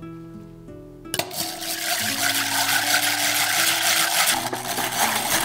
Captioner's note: egg beater turns